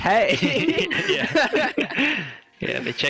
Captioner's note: all agreeing laughter